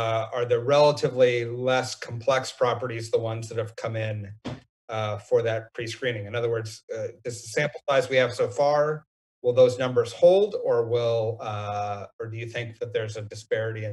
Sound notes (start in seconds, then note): none